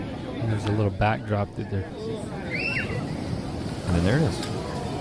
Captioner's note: girl screams